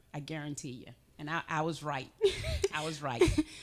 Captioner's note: chuckling